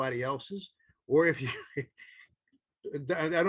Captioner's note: chuckles